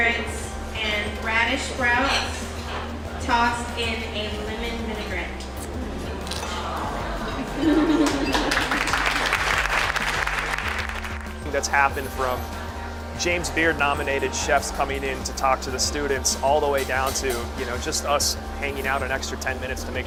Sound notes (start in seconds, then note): 8.0 clapping